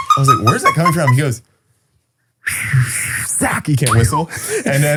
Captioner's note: hissing